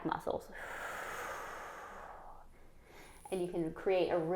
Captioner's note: exhales